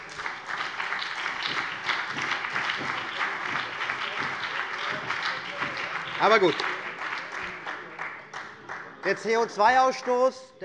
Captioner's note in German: Beifall CDU und BÜNDNIS 90/DIE GRÜNEN